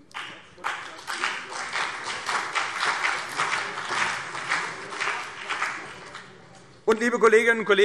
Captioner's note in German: Beifall CDU und vereinzelt BÜNDNIS 90/DIE GRÜNEN